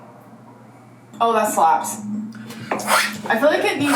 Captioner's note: slapping noise